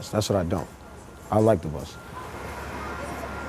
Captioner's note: none